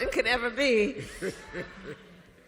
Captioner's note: laughter